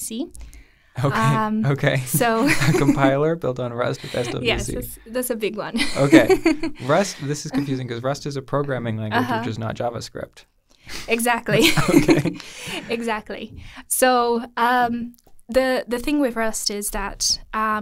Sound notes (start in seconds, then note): 5.8 laughing